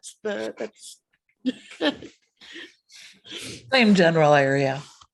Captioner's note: chuckles